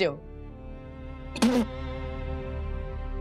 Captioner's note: laughs